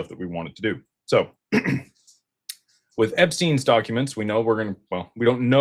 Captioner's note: clears throat